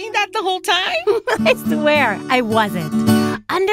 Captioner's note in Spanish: ríe